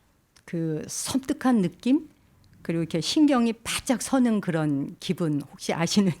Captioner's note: speaking in Korean